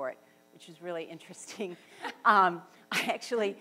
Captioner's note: laughs